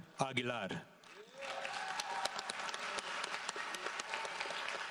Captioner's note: audience applauds